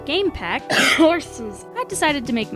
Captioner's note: cough